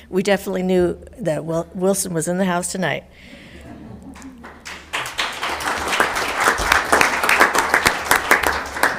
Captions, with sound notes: We definitely knew that Wilson was in the house tonight. (audience laughing) (all applauding)